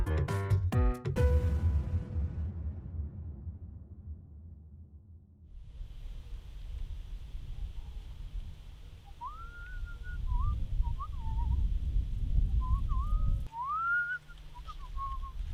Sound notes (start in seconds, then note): 9.1 Zipwaz whistling